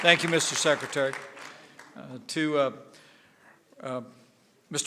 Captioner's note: applause